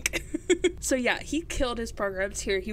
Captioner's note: laughs